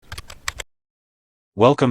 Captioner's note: typing